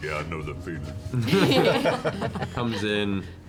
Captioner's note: laughter